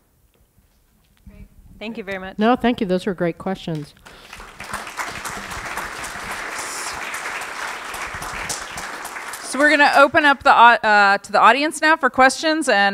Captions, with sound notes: >> Great. Thank you very much. >> No. Thank you. Those are great questions. [ Applause ] >> So we're going to open up to the audience now for questions.